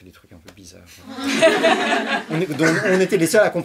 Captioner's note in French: rires